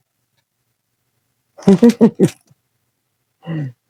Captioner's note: laughing